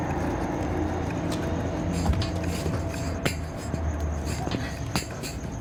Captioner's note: rattling